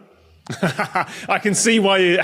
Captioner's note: laughs